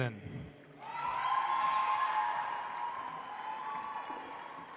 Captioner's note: audience applauds